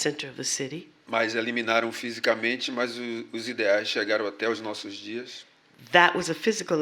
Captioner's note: speaking portuguese